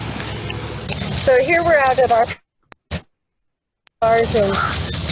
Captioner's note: audio glitching